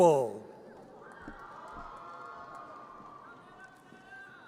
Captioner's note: audience cheers